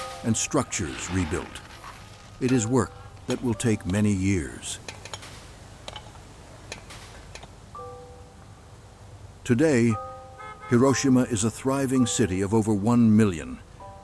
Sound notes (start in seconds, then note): 0.0 shoveling; 0.0 picks breaking rubble; 7.6 city traffic